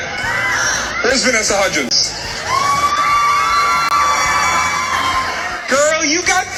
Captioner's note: audience cheering